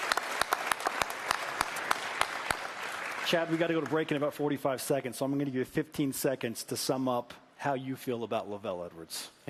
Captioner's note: applause